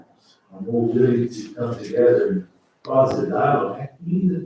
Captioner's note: faintly speaking